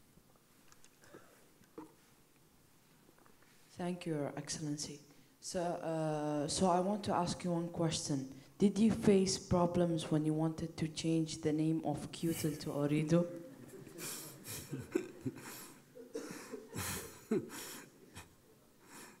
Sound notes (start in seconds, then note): 13.5 laughing